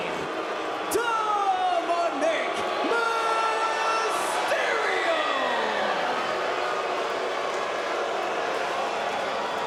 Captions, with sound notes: Dominik Mysterio! (crowd boos)